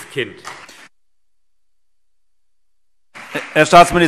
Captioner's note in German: Beifall CDU und BÜNDNIS 90/DIE GRÜNEN